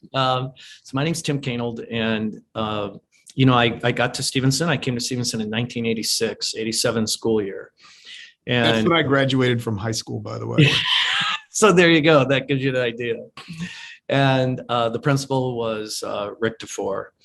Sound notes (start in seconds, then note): 10.5 laughs